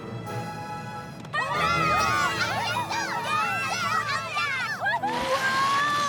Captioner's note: all cheering